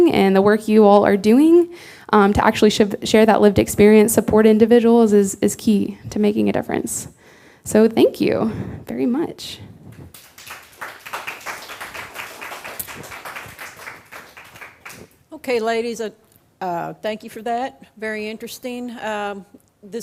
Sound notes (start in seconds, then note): 10.0 audience clapping